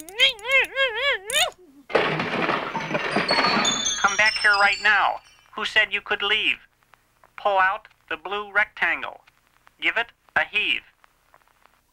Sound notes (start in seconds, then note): 0.0 straining; 0.1 cranking; 1.9 crashing; 2.6 chiming